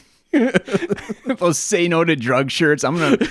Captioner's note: both laughing